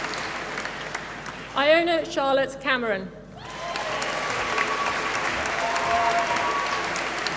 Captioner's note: applause